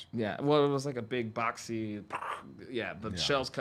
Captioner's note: vocalizes